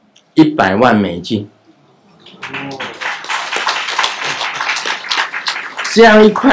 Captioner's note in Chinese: 眾鼓掌